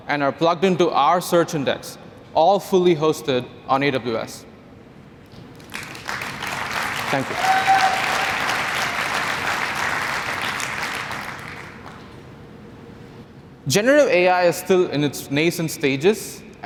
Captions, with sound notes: and are plugged into our search index, all fully hosted on AWS. [applause/cheering] Thank you. [applause] Generative AI is still in its nascent stages,